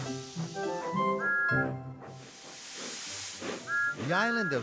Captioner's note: whistle toots